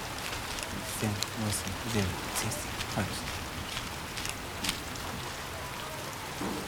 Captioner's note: characters speaking in foreign language